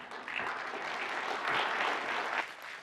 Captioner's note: applause